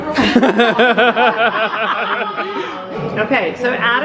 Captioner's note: laughing